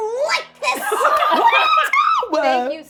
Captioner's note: laughing